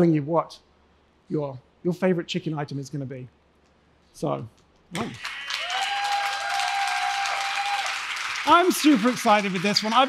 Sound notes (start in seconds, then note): 4.9 applause; 5.0 cheering